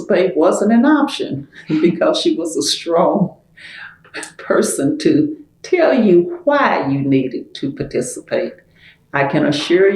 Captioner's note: laughter